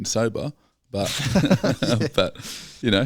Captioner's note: laughing